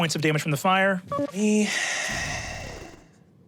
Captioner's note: engine powering down; computer beeps